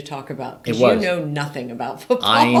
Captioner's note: laughs